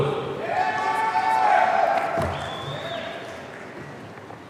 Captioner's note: audience cheering